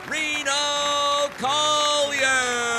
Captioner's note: audience applauding